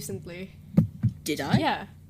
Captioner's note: mic thumps